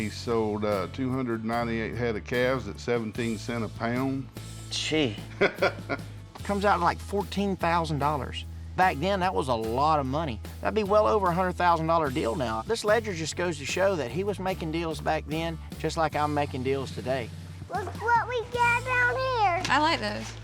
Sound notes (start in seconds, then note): 5.2 chuckling